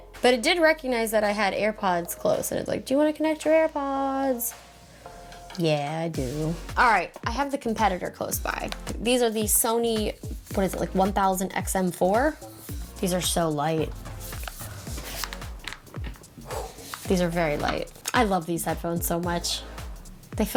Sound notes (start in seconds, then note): 15.0 gentle dramatic music; 16.5 headphones rattle